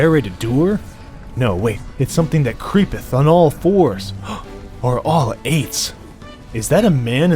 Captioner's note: gasp